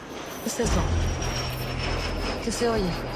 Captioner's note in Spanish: Ruido del motor de avioneta